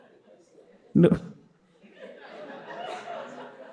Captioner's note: participants laughing; all laughing